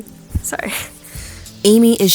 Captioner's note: chokes up